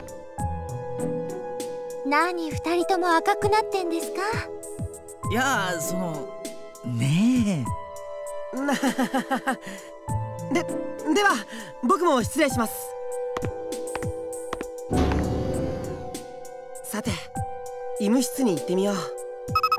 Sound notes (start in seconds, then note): 8.6 awkward laugh